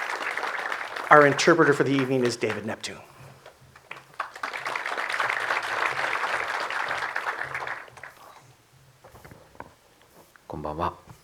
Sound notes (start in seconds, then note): 3.9 audience applause